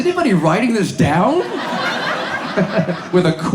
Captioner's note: audience laughs